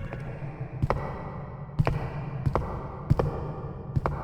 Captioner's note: footsteps echoing